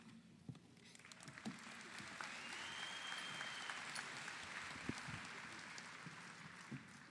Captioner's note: audience applauds; audience cheers